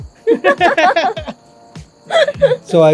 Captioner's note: laughs